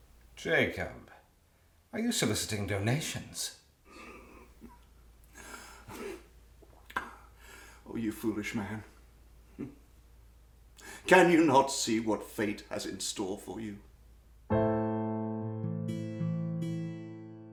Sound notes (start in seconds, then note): 3.7 laughing; 5.3 wheezing; 14.5 slow piano music